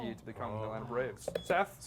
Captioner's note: beep